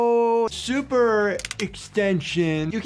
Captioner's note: bones cracking